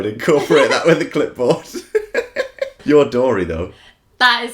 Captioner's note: laughter